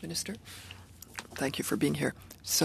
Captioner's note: speaking French